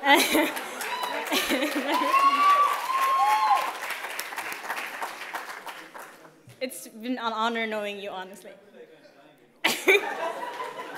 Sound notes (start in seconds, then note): 0.5 cheers; 1.1 laughter; 9.6 laughter